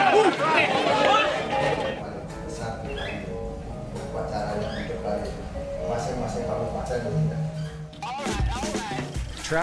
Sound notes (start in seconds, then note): 2.5 birds chirping; 7.9 uptempo drum music